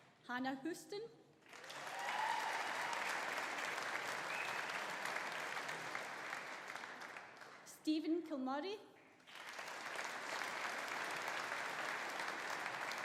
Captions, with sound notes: Hannah Houston. (AUDIENCE APPLAUDING) (AUDIENCE CHEERING) Steven Kilmurray. (AUDIENCE APPLAUDING)